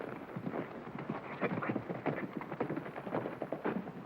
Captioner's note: hooves beating